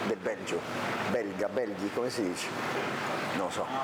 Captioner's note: in Italian